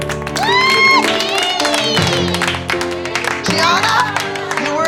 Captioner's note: cheering